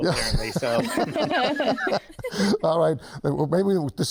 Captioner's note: everyone laughs